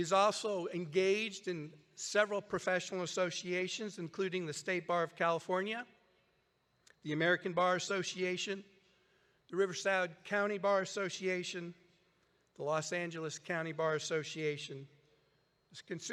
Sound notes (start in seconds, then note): none